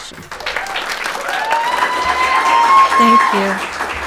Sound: audience applauding

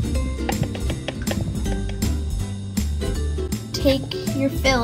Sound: measuring spoon taps

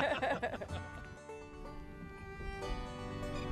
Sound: laughter

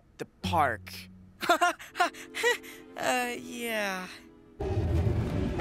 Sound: Barney laughs nervously

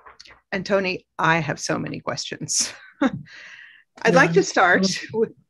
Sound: laughs

